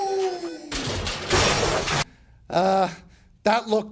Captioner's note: crashing